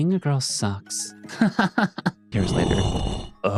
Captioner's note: laughs